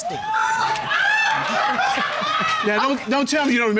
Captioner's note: audience laughing; chuckles